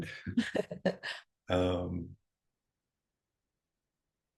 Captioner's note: both chuckling